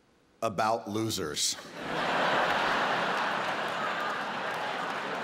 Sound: audience laughing

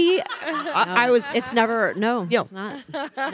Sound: panelists laughing

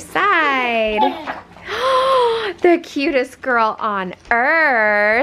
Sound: laughs; gasps

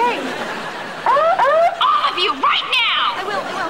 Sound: siren

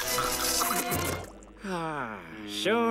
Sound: sighing

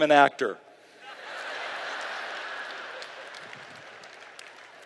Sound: laughter

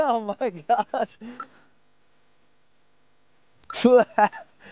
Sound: laugher

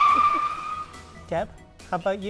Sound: tires screeching

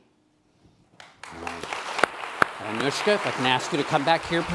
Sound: applause

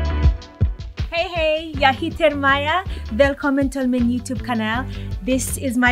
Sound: upbeat instrumental music; is speaking in a foreign language

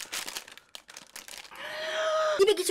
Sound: gasp!

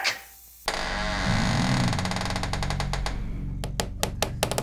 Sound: creaking

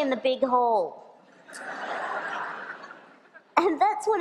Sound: laughter

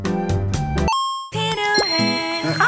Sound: camera flickering noise and then happy elevator music; arcade game coin noise

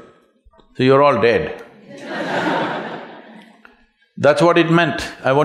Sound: laughter

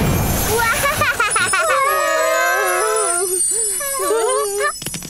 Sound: admiring exclamations

